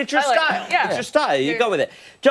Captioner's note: laughter